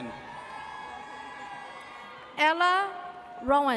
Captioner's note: audience cheers